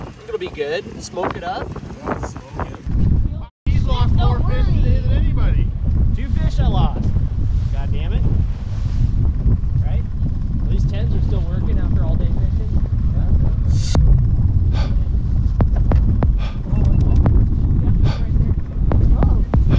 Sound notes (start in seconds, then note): 14.3 rhythmic breathing; 15.5 intermittent drumbeat